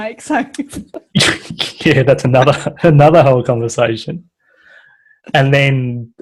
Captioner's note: laughs